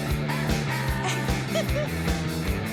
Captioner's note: laughing